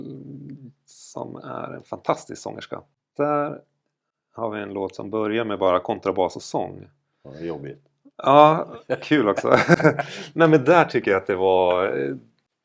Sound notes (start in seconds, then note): 8.6 laugh